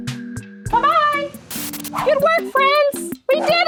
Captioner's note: jazzy music plays; TV screen crackles